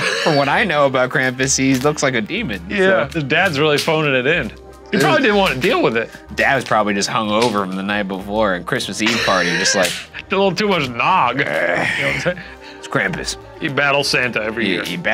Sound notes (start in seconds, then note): 11.3 groans